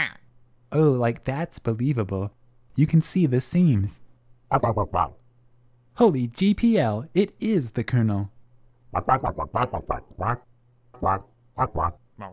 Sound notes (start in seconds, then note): 4.8 angrily squawking; 11.0 instructive squawking